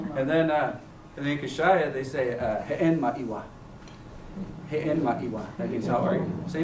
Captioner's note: non-english speech